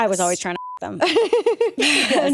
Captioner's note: beep; laughing